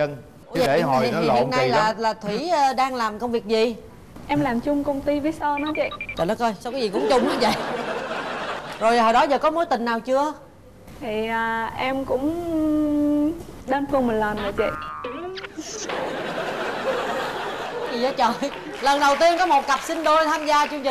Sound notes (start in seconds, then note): 14.4 laughing